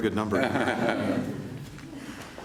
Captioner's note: laughter